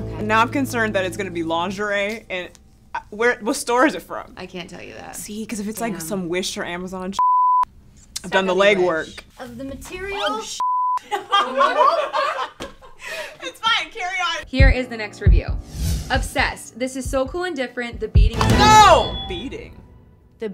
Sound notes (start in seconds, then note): 7.2 beep; 10.6 beep; 11.0 laughing; 18.2 intense music